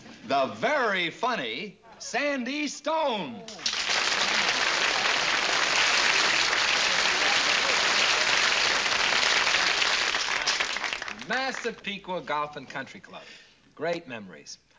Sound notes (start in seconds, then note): 0.0 whispering; 3.5 applause